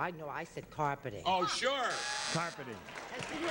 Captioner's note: buzzer